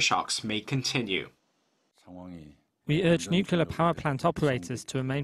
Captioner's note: Korean